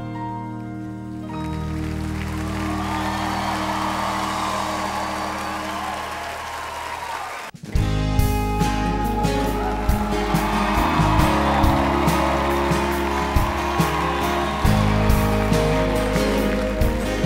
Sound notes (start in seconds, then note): 1.6 audience cheering; 8.2 upbeat music